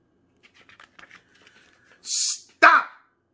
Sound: paper flipping

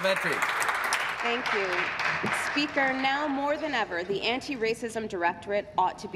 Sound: applause

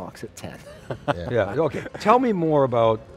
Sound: all chuckling

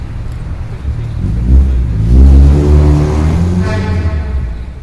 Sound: engine roaring

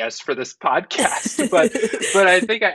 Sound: laughing

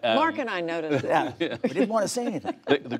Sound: laughter

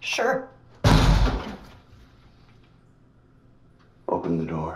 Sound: loud bang

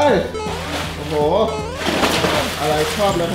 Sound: water splashing

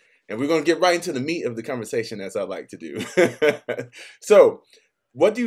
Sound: laughs

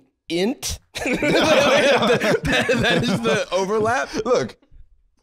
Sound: laughing

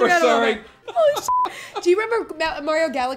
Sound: laughing

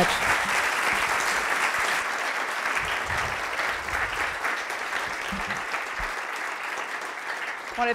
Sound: applause

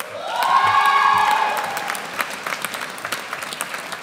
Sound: audience cheers

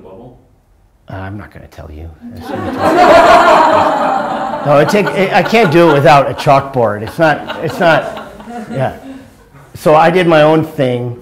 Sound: laughter

